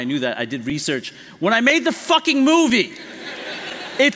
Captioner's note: laughter